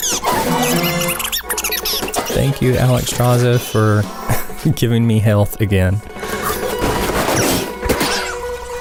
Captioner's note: haha